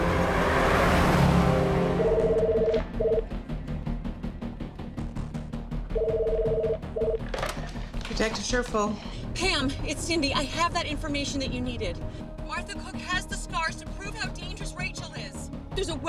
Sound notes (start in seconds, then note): 1.8 phone ringing